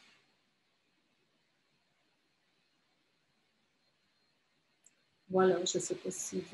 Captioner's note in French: silence